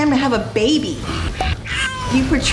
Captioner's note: growling; baby crying